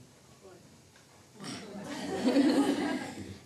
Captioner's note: laughing